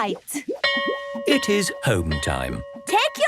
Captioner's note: bell rings